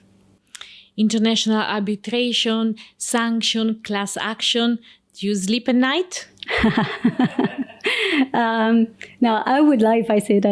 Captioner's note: laughs